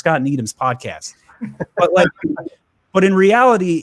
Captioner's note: laugh